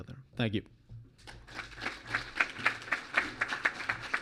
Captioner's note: clapping